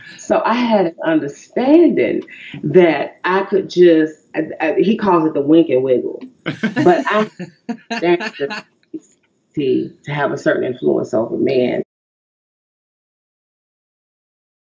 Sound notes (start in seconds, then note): 6.4 host laughter